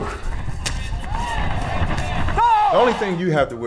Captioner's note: groans; kick and punch thudding; referee shouting; cheering; upbeat music